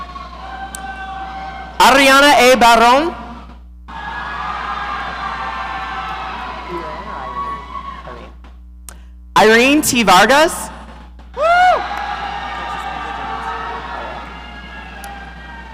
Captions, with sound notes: Ariana A. Barone. (audience cheering) Irene T Vargas. (audience cheering)